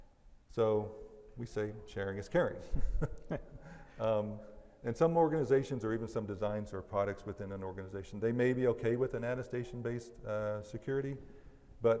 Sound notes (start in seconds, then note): 2.7 laughs